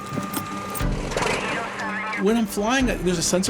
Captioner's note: airplane engine noises